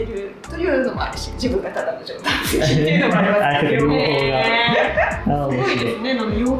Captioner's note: laughs